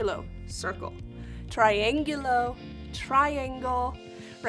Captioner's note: speaking in Spanish